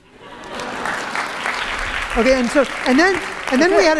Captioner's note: applause